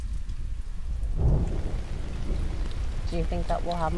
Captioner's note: rain patters; thunder crashes